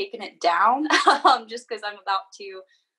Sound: laughing loudly

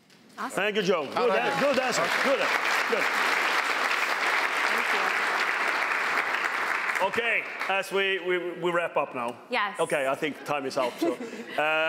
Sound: applause

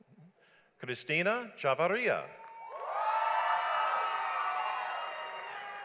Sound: audience applauds

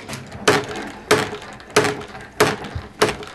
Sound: rhythmic clicking

